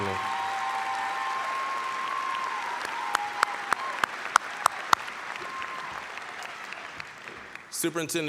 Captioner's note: applause, cheering